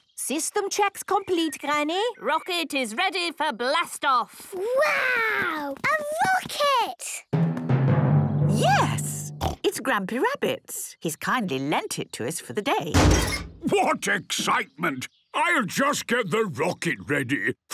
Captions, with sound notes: - System checks complete, Granny - Rocket is ready for blast off! - Wow! A rocket! - Yes, it's Grampy Rabbit's. He's kindly lent it to us for the day. - (metallic door bursting) - What excitement! I'll just get the rocket ready